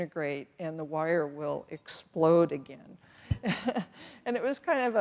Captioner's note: chuckles nervously